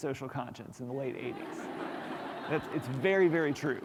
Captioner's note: applause